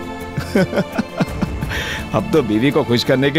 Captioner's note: Laughs